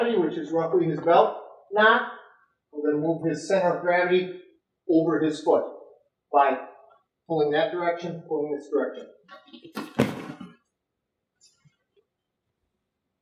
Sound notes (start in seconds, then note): 9.8 thud